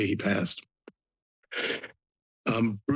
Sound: pause

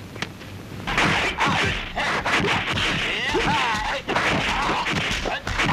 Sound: fighting sound effects

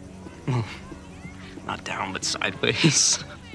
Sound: laughs

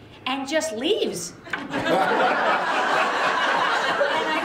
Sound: laughter

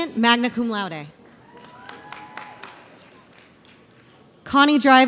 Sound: audience applauds

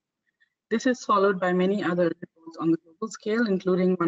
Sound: audio static

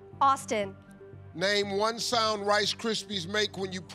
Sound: none

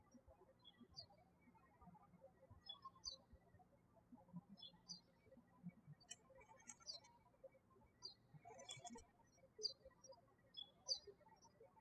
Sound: birds chirping

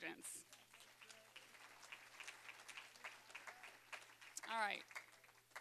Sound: applause

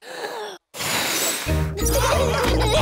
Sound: blows; laughter

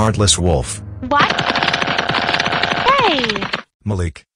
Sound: crying

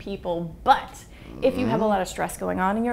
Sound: man grunts again

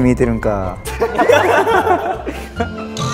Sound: haha

